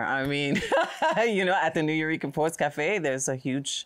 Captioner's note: laughs